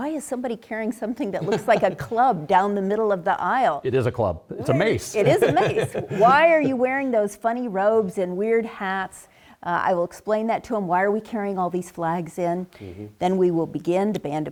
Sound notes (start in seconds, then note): 4.6 laugh